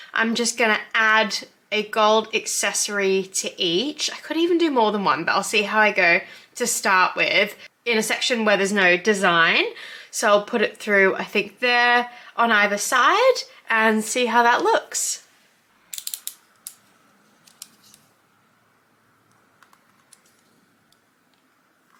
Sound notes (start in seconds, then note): 15.9 craft knife clicks